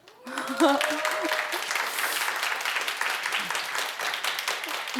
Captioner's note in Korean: 박수